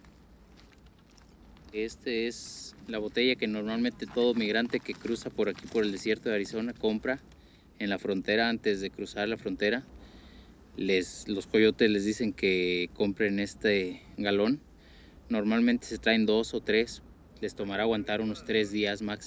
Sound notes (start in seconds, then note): 2.3 speaks Spanish